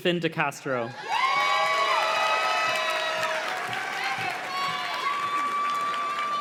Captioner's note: audience cheers and claps